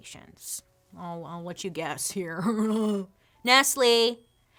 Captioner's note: snickers